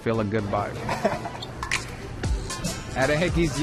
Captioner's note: laughs